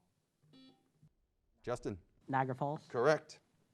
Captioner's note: buzzer beeps